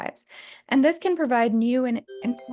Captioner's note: electronic tones